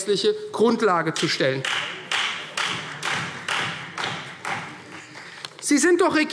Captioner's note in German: Beifall Freie Demokraten